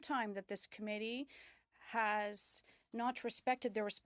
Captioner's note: speaking French